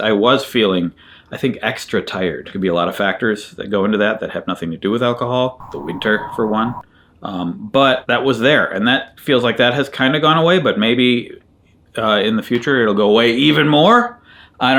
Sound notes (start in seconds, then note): 5.6 wind blowing